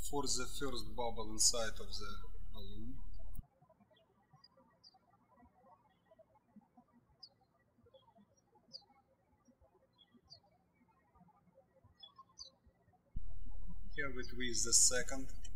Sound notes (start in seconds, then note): 3.4 birds chirping